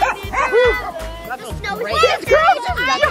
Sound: overlapping chatter

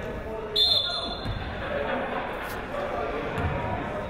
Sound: whistle blows

